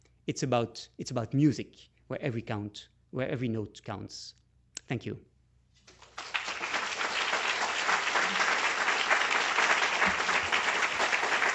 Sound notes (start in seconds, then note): 8.5 applause